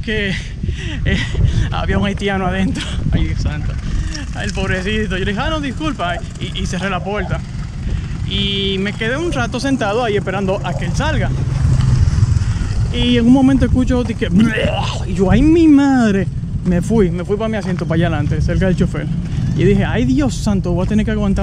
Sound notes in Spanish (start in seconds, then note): 14.3 Sonido vomitando